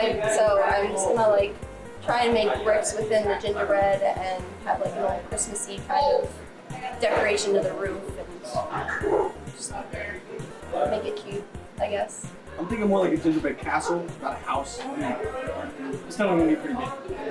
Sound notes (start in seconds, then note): 11.6 laughs